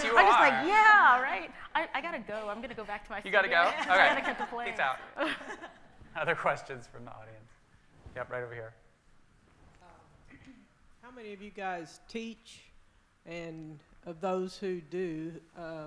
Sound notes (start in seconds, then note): 5.1 panelists laughing